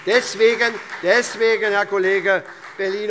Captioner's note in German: Beifall SPD